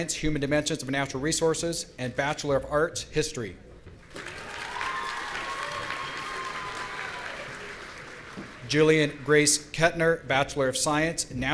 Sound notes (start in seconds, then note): 4.1 audience cheering